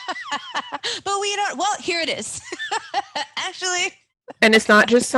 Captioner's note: laughing; laughs